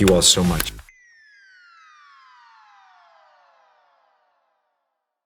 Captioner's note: digital chiming